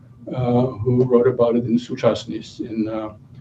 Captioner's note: non-english speech